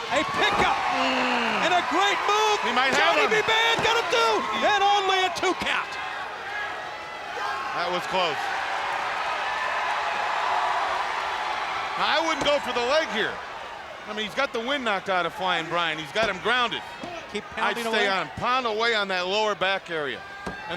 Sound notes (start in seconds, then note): 2.6 blows thudding; 2.7 hand thudding; 9.5 crowd cheering